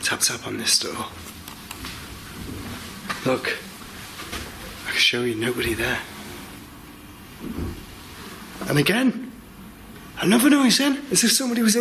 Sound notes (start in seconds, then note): 7.4 thud